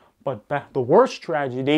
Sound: none

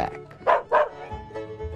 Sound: dog bark

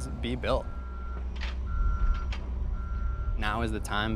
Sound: beep, beep, beep

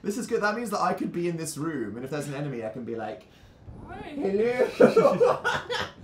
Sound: laughing

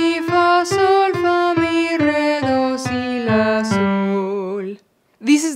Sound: lowering in pitch

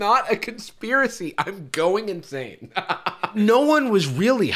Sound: laughs

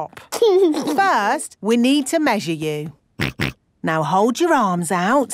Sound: snorts

